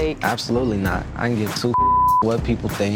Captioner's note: beep